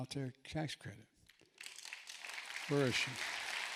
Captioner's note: applause